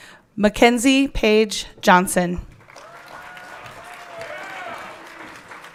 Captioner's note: everyone clapping